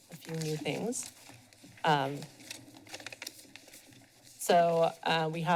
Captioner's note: papers rustling